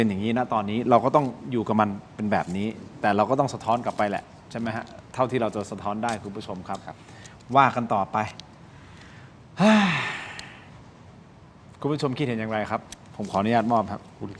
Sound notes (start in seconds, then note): 9.5 sigh